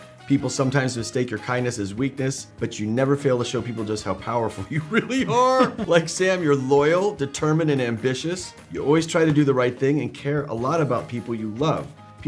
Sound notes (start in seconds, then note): 4.7 both laughing